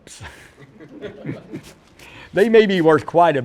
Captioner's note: laughter